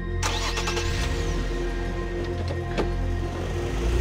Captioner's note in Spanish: Ruido del auto